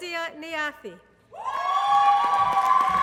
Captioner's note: applause